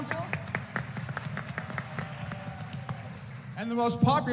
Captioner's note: applause